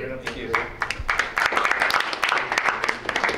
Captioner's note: applause